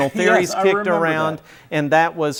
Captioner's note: laughing